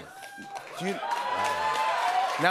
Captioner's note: cheers and applause